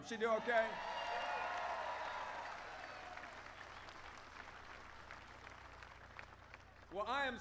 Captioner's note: applause